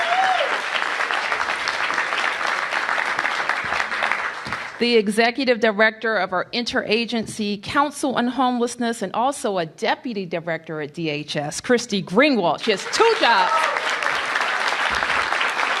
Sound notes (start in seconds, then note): 3.3 cheers and applause